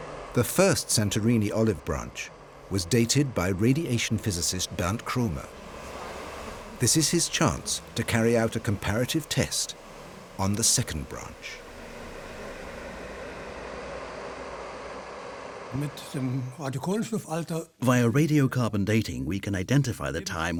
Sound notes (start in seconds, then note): 16.5 speaking German